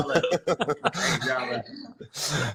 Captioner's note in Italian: Risate